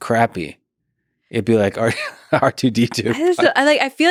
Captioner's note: laughs